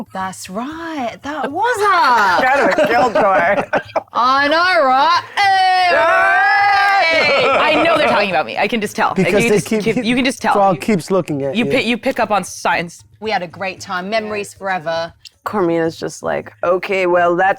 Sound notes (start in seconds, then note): 5.7 Princess Hobnip and frog cheering